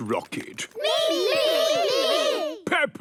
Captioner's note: calling out in turn